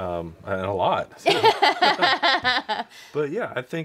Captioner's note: laughs